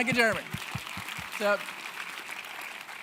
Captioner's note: audience clapping